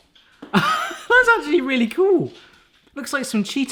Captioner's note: laughs